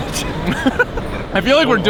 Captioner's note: all laugh